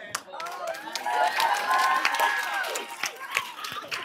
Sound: applause

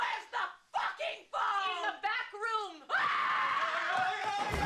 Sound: yells

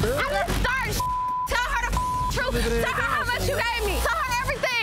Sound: beep

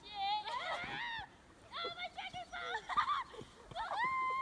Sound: laughing

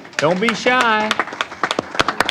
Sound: applause

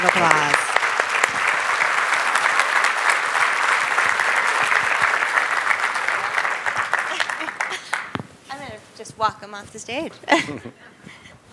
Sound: applause

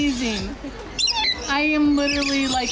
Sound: parrots loudly chirping

